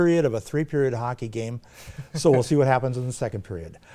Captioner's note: laughs